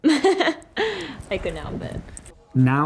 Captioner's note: laughs